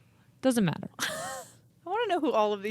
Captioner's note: laughing